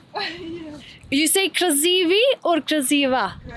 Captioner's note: laughs